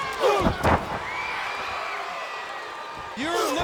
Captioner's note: audience cheering; body thudding